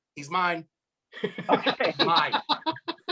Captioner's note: laughs